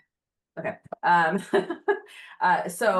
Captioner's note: laughing